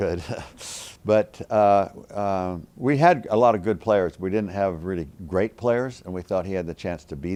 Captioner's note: laugh